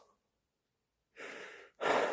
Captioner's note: inhalation; sigh 2